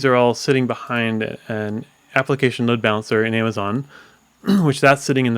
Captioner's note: coughs